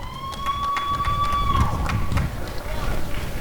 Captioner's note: applause and cheering